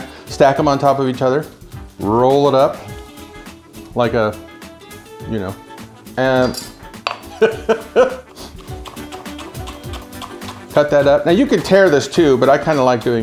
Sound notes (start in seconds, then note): 7.2 laughs